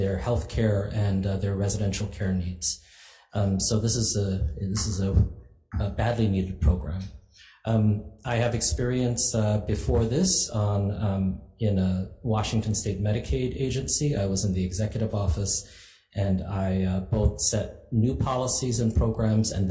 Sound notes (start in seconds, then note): none